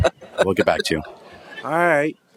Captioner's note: laughter